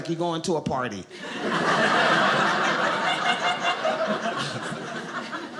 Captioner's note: audience laughing